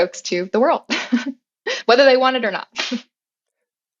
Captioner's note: laugh